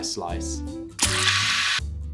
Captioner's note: cake stab